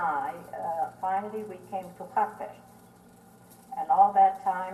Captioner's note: non-english